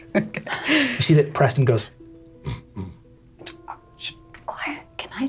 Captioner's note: imitates pig snorting